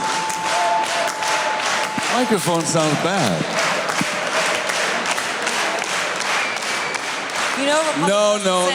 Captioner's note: faster, louder clapping